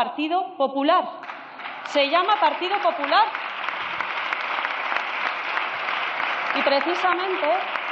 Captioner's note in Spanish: Aplausos